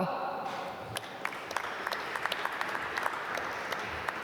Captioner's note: applause